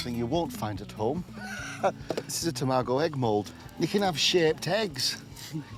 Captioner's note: chuckles